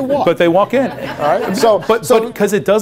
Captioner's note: laughter